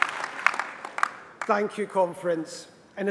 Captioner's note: applause